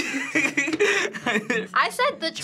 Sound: laughing

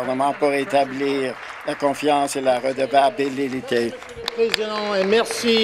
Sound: applause

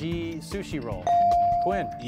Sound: device dings

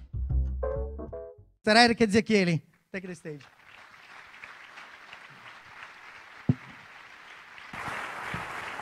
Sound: applause

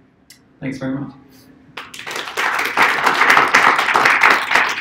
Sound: applause

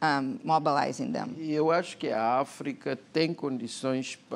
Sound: speaking portuguese

